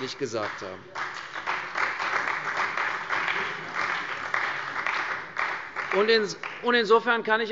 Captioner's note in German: Beifall bei der CDU und dem BÜNDNIS 90/DIE GRÜNEN